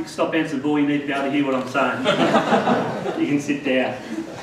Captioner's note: laughter